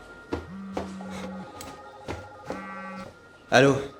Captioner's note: cell phone vibrates